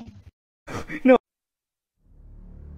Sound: inhale

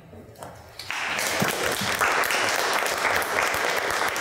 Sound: audience applauds

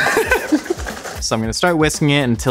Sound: laughs

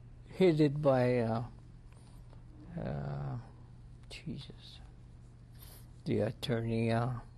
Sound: pauses for 3 seconds

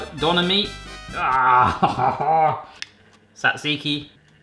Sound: laughing

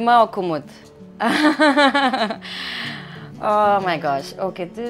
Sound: laughs

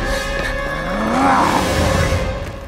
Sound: growls

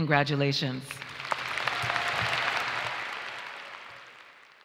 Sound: audience applauds

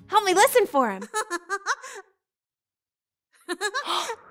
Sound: giggles

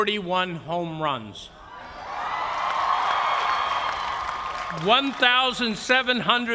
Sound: cheers and applause

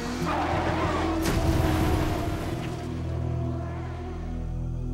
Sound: engine revving; car crashing

